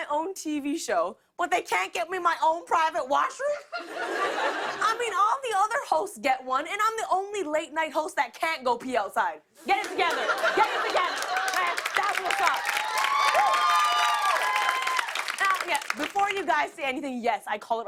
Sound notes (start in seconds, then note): 3.5 laughter; 12.2 cheers and applause